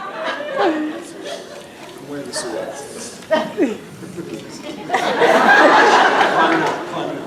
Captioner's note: laughs